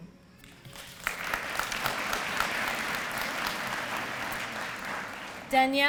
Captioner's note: applause